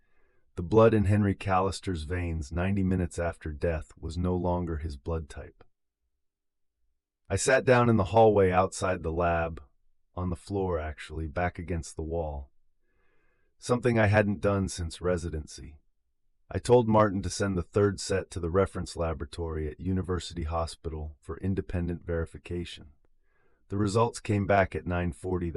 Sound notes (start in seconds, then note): 12.8 exhale